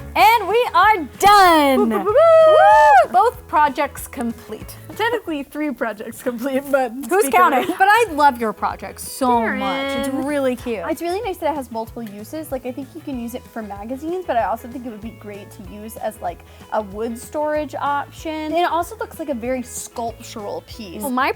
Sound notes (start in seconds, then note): 1.7 mimics fanfare